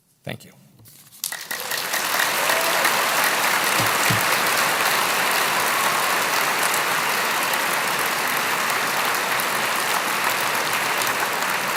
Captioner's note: applause